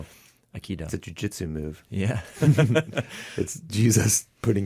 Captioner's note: laughs